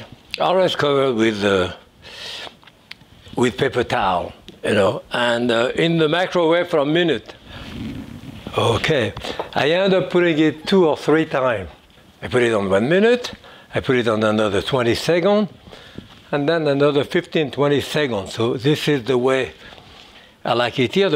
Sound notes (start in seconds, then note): none